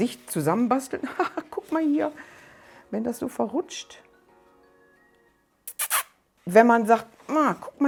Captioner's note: muah